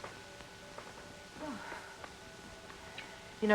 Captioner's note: sighs